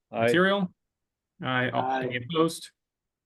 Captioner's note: multiple ayes